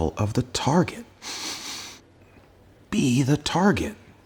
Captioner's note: sniffs